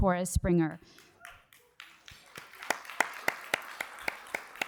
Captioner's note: cheers and applause